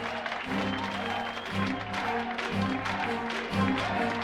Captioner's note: ominous music; crowd cheering